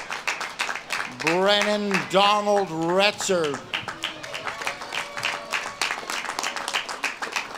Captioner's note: audience claps and cheers